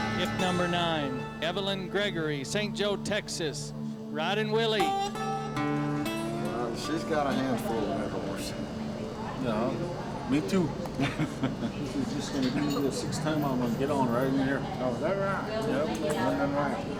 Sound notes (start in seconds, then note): 10.9 laughs